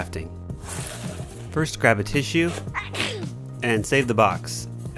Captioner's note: sneeze